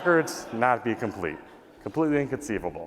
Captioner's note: laughter